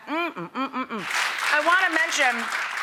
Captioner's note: audience applauding